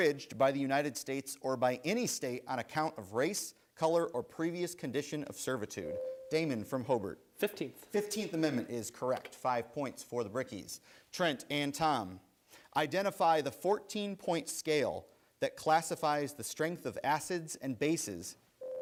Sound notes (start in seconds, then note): 5.9 bell rings